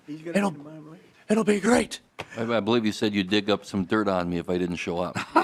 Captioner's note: laughter